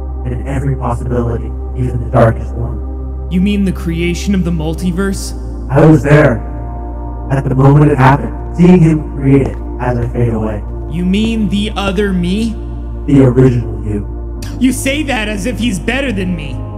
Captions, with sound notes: and every possibility… Even the darkest ones. You mean the creation of the multiverse? I was there- at the moment it happened, seeing him create it as I fade away. You mean the other me? The original you. *scoff* You say that as if he’s better than me.